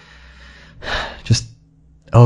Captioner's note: sigh